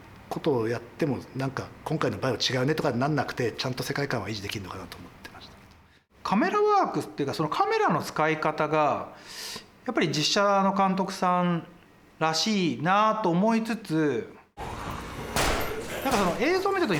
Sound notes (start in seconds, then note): 15.3 gunshots; 15.6 snarling